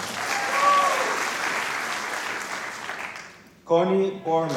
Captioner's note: applause